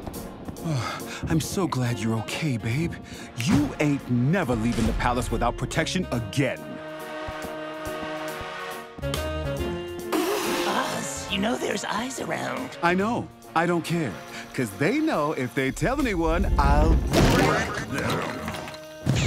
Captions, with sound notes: [SIGH] I'm so glad you're ok, babe... You ain't never leaving the palace without protection, AGAIN Oz... You know there's eyes around... I know. I don't care. Cuz they know, if they tell anyone, i'll BREAK THEM